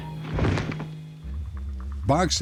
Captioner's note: thud